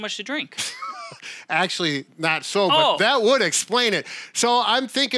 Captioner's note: laughing